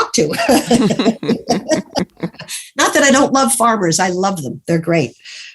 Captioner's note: laughs